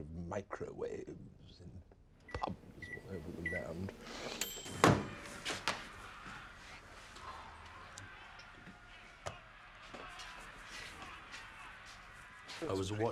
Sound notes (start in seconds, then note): 4.3 microwave dings; 4.9 crowd cheering; 5.0 TV chattering